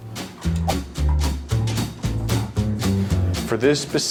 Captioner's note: whooshing